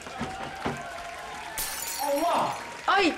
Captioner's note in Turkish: Cam kırılma sesi